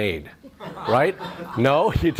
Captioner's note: audience laughs